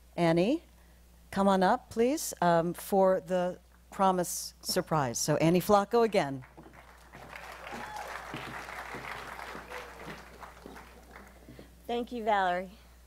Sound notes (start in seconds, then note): 7.6 applause